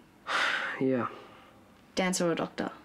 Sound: sigh

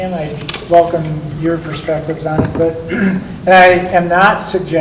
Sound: clears throat

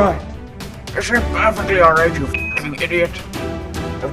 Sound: NASA beep

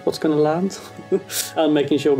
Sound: chuckles

